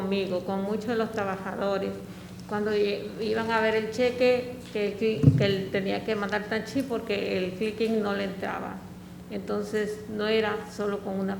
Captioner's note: speaking spanish